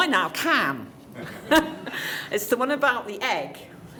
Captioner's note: light laughter